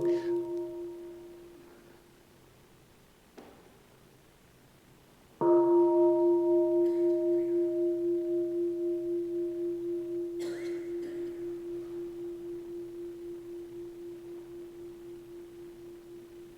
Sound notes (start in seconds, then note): 0.0 bell chimes; 5.5 bell chimes